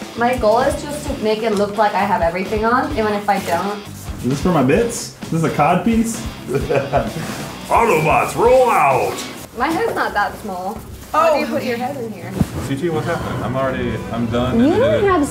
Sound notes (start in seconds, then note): 6.4 laughing